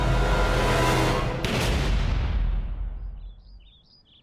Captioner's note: gunshot